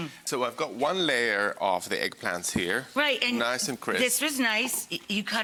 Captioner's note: none